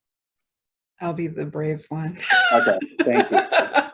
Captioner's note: laughs